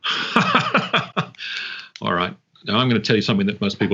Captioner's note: laughs